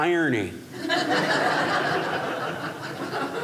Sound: audience laughing

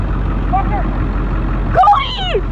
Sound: the Man yelling

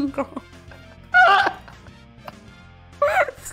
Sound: screaming

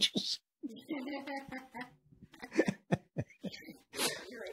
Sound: laughing

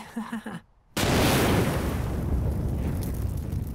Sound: more nervous laughter; sound of highly explosive dust crystals exploding

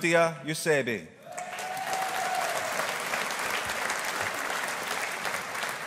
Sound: audience applauding

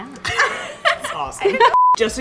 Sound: laughter

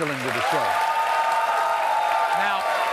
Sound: audience cheers

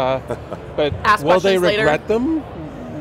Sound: laughs

